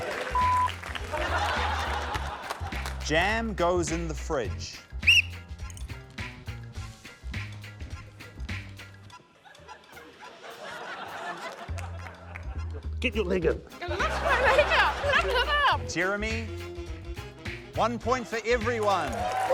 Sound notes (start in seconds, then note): 0.0 applause; 1.0 laughter; 4.9 whistle blows; 9.2 laughter